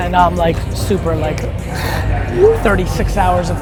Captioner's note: sighs